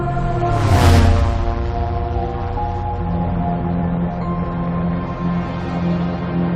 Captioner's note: airplane buzzing